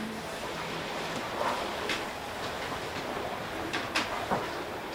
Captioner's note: waves crashing quietly